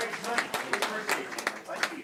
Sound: applause

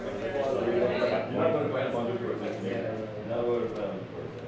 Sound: group chatting

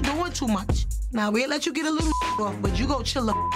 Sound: beep

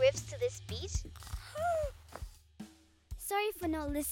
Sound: snoring, gasps

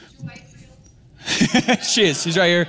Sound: laughter

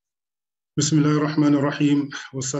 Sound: speaking arabic

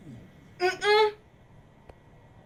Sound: moanings of denial

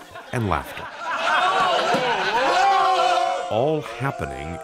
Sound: crowd laughing

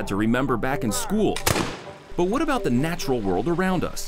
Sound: gun shot

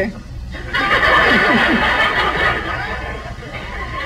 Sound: audience laughs

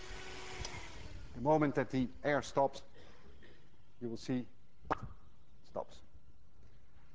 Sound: air clicks off

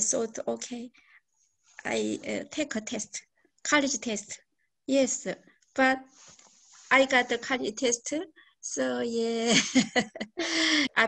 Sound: laughs

